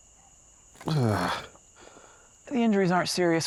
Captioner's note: grunts